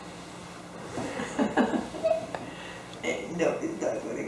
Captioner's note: laughing